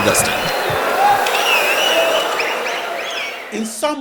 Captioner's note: wild applause and cheering for 22 seconds